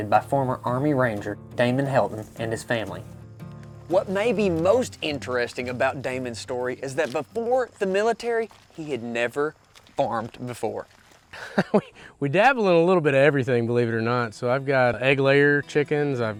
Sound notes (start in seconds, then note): 11.3 chuckling